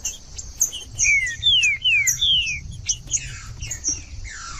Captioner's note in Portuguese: trinca ferro cantando